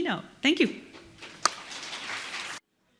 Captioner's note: applause